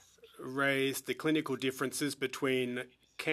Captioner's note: speaking French